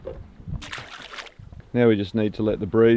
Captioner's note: water splashes